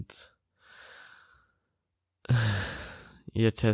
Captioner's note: sigh